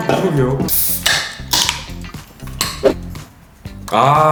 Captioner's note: gulp gulp